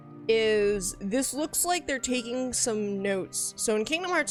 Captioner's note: none